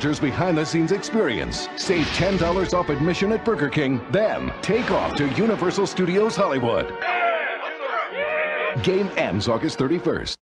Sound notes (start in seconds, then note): 7.0 cheering